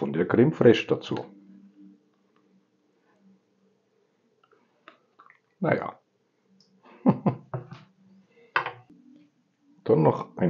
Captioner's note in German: lachen